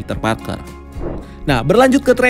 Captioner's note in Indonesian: suara transisi